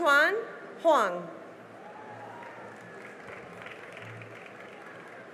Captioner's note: cheering and applause